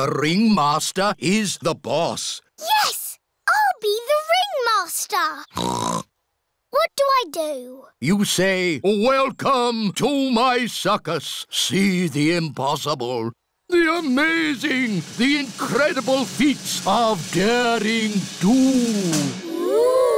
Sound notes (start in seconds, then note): 5.5 snorts; 19.0 drumroll